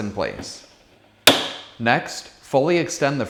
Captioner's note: snaps